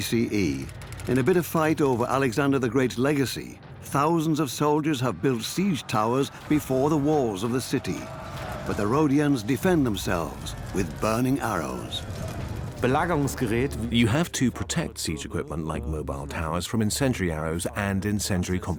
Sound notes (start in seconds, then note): 12.1 in German; 14.0 dubbed in English